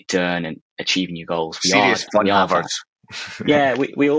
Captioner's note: chuckles